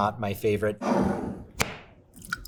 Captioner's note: jar cap clacking; sauce sloshing; jar scraping